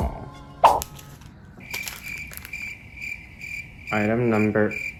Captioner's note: sound effect: crickets chirping